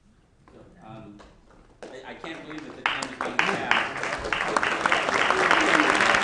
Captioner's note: applause